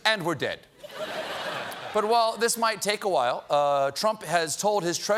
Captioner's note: laughter